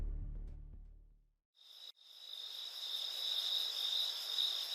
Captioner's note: crickets chirping